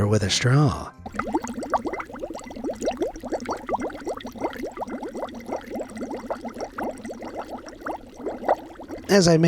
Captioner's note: water gurgles